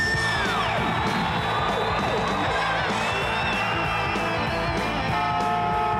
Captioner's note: energetic rock music; crowd cheering; sirens wailing; car horn beeping